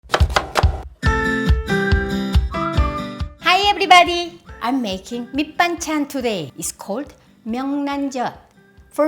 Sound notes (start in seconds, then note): 0.0 chop chop chop!; 0.1 lively music